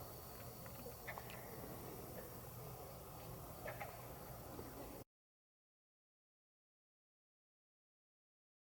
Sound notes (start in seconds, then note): 0.0 katydids forest sounds; 5.0 silence